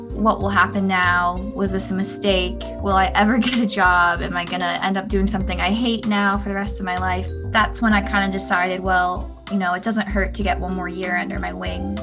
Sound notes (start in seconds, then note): 3.4 laugh